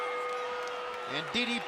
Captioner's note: bell ringing